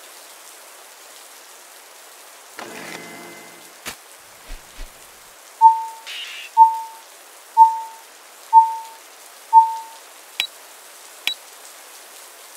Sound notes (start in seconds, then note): 5.6 beep beep beep beep; 10.1 click click